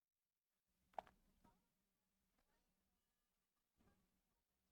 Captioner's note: silence